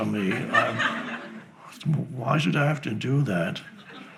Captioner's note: laughing